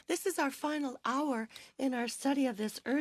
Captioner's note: speaking French